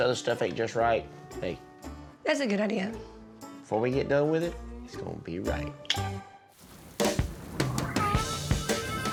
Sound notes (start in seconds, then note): 5.7 clicks teeth; 6.5 rain falling